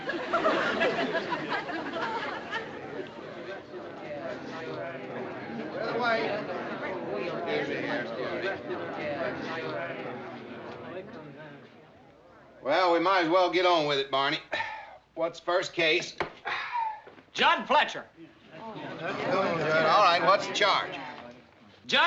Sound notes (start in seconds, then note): 0.0 audience laughs; 4.1 residents chattering; 9.6 residents chattering; 16.4 sighs; 18.9 residents chattering